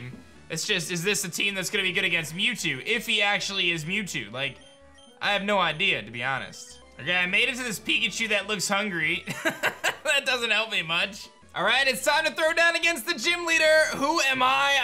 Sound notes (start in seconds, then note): 9.3 laughs